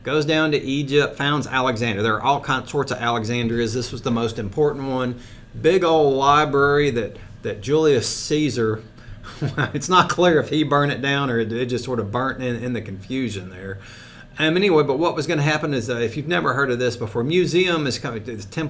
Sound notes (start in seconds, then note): 9.2 laughs